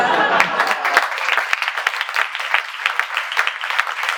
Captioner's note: laughter; applause